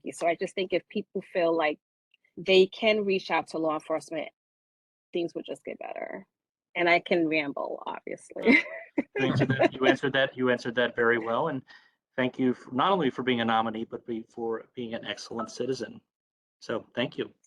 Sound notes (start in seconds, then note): 8.4 laughter